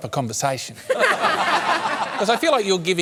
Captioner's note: laughter